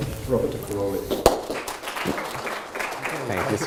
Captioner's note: audience applauding